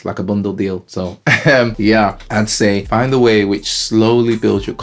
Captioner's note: laughs